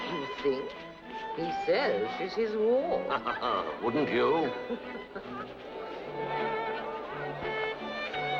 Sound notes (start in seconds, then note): 4.4 chuckles; 5.7 ballroom music plays